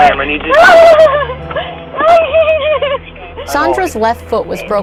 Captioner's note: screams and cries